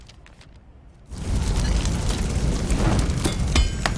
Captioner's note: flames burning; clanking sound